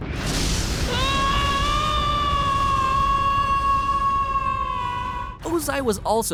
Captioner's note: screaming